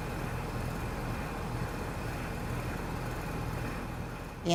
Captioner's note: heat pump fan blowing